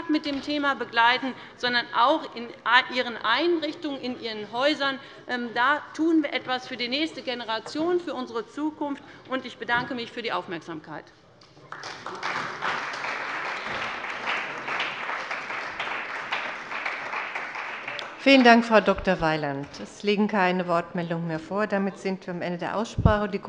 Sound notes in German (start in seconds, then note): 11.6 Beifall bei der CDU und dem BÜNDNIS 90/DIE GRÜNEN